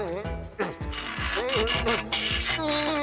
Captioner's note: pipe ratcheting